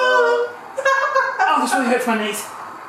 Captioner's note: chuckling